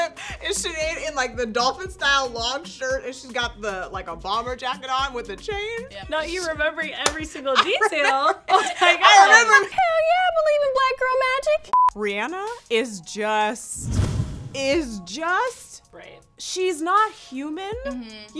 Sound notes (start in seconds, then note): 7.4 all laughing